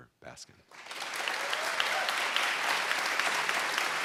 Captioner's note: applause